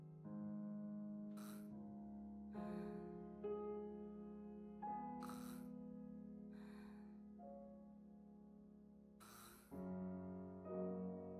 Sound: gasp

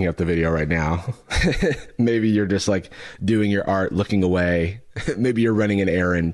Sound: laughs

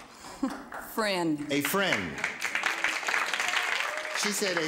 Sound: soft laugh; scattered applause

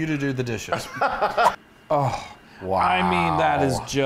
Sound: laugh

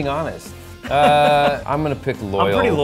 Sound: laughs

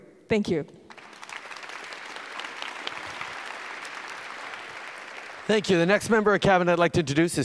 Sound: applause

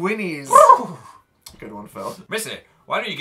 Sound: Phil whinnies

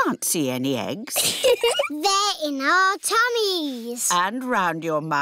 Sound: giggles

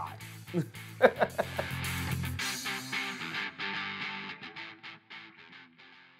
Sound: upbeat music; laughing

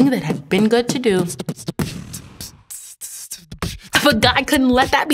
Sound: beatboxing transition

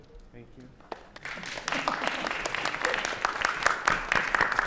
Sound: applause

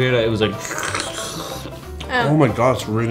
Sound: slurping noise

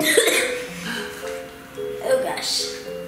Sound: coughs

